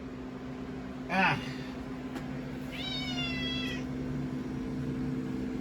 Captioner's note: Caprice meows